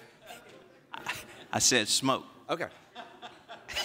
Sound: laughter

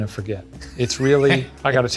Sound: laughs

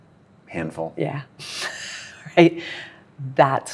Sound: laughs

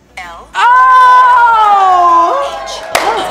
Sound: cheering

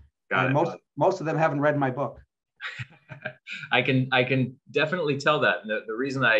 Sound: chuckles

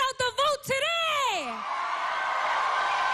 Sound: cheering and applause

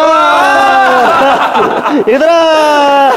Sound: laughing

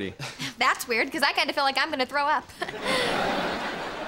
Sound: giggling

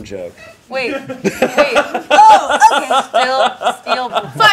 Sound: laughing

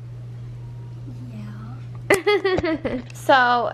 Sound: laughs

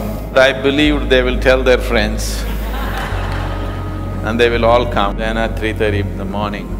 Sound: laughter

